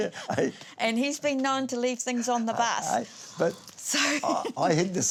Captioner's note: laughs